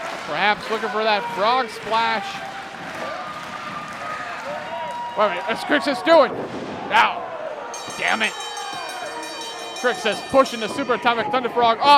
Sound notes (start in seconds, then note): 7.7 bell ringing